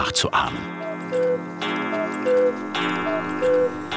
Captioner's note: cuckoo call